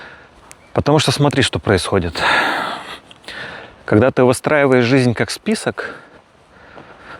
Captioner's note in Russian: вздыхает